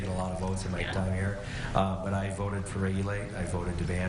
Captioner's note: chuckling